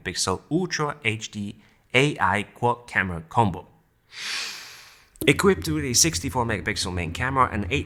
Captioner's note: take a deep breath